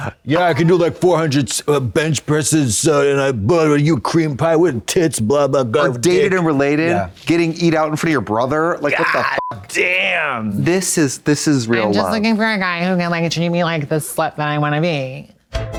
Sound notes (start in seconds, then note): 9.3 beep; 15.6 electronic bop